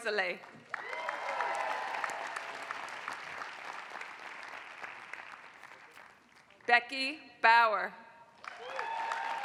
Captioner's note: applause; applause